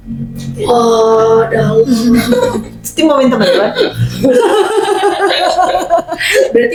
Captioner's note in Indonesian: tertawa